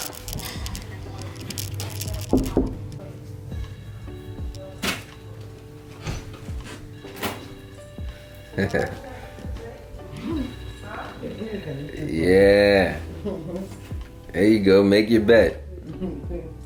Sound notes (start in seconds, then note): 2.4 knocks on door; 8.5 laughs